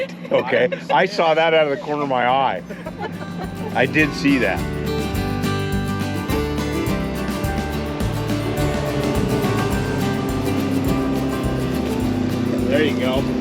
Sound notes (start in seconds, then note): 2.4 laughing; 5.4 boat engine running